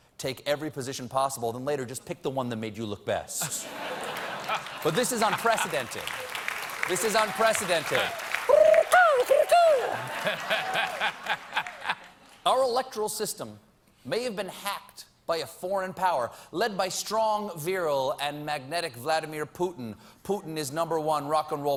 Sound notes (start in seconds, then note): 6.2 applause; 6.2 making bird sounds